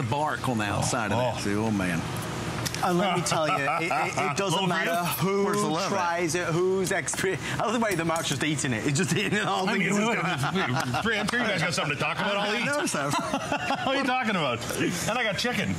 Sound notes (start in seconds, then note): 9.7 laughter